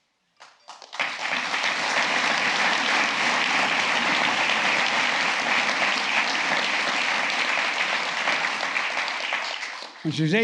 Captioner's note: applause